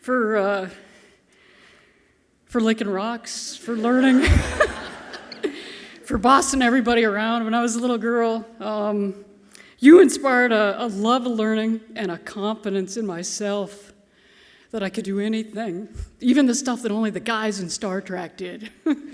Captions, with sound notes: For licking rocks, for learning, (all laughing softly) for bossing everybody around when I was a little girl. You inspired a love of learning and a confidence in myself that I could do anything, even the stuff that only the guys in "Star Trek" did.